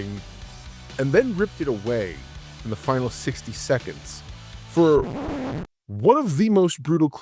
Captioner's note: record scratch